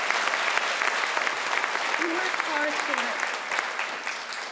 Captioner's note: crowd applauds